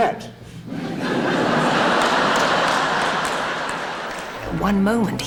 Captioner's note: audience laughs